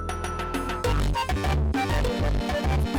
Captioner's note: extreme distortion